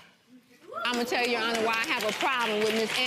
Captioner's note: clapping